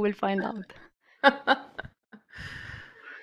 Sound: laughter

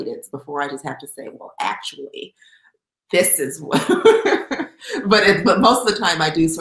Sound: laughs

